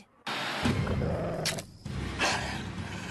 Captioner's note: growling continues; deer Growling, Branch Snapped